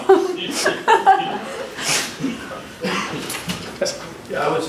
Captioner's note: laughing